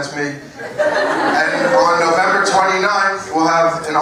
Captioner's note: laugh